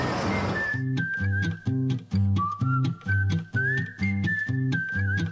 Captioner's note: wind whipping